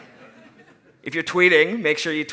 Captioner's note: laughing